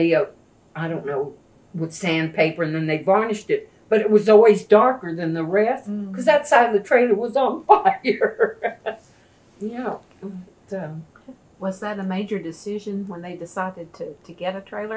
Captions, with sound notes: I don’t know, with sand paper. They varnished it, but it was always darker than the rest because that side of the trailer was on fire. (Laughs) Was that a major decision when they decided to get a trailer?